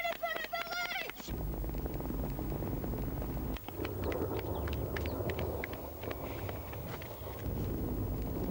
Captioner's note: sound of tyre rolling, and footsteps on tarmac